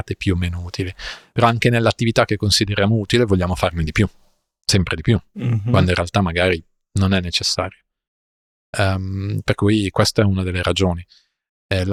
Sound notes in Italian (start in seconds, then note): 5.3 schiarire la voce